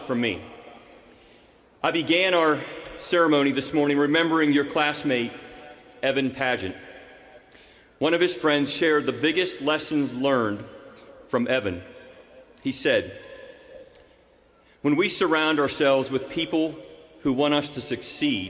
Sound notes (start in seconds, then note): none